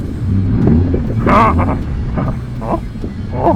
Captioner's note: grunting; speaking foreign language